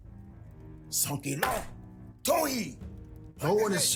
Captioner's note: speaking Cherokee language